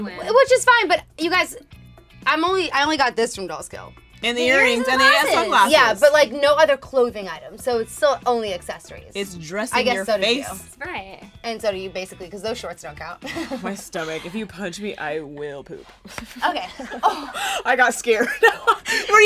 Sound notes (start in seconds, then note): 13.3 laughs; 16.0 slaps; 16.1 laughs